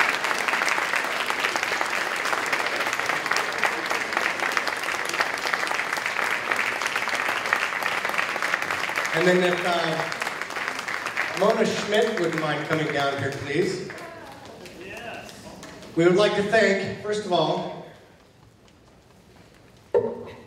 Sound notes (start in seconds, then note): 4.7 applause, cheering